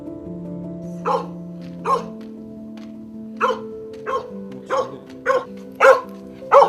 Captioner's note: barking